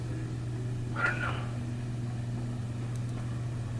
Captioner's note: whispers